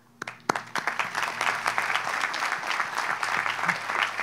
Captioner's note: audience applauds